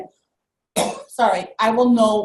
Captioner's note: cough